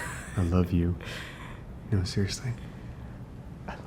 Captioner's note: man laughing